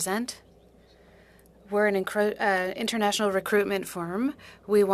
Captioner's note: speaking French